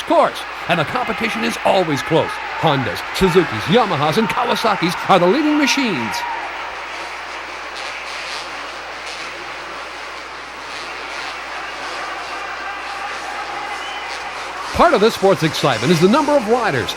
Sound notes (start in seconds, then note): 7.3 engines whine